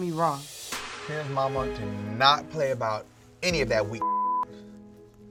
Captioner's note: beep